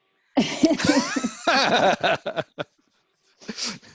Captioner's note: all laughing